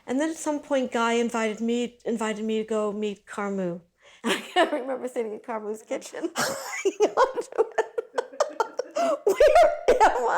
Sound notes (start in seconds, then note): 6.4 laughing